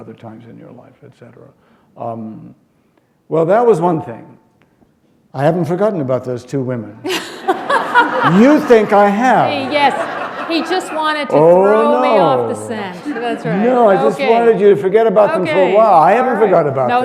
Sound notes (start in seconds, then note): 9.7 laughter